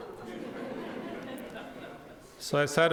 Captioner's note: audience laughing